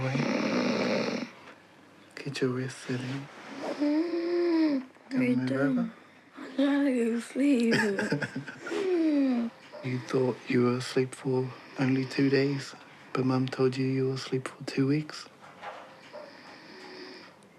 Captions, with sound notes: (SNORES) Get your rest. (WHEEZES) What are you doing? Do you want to move over? I'm trying to go to sleep. (LAUGHS) You thought you were asleep for only two days, but Mum told you you were asleep for two weeks.